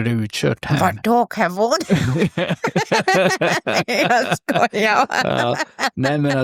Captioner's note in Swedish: skratt